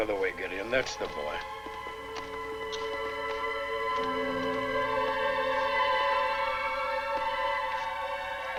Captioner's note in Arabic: موسيقى مشؤومة; خطوات قوية